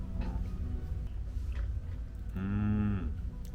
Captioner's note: munch munch